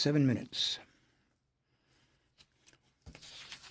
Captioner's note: speaking French